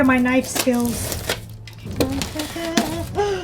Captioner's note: box cutter slices; hums